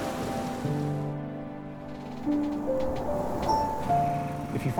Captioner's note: crickets chirp